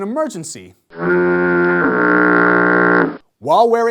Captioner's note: foghorn